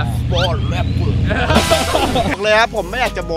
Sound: laughs

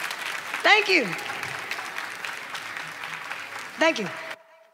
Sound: clapping

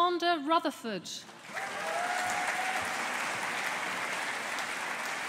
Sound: audience applauding

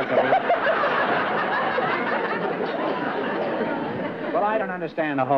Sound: laughter

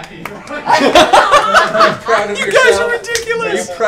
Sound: laughter

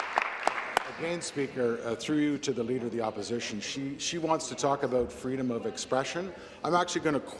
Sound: applause

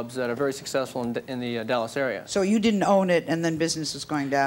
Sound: none

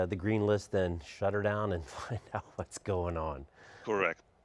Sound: chuckling

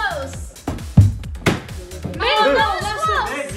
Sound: ball rattling

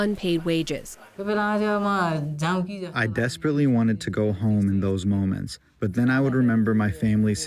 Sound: through translator

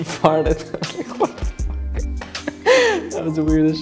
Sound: laughing

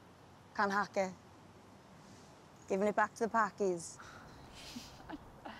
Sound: girls laugh

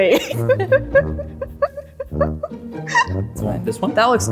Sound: laughter

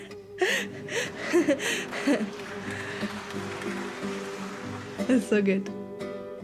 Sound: audience clapping

